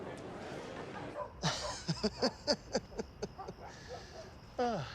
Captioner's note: laughing